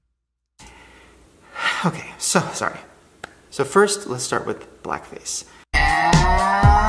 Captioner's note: sighs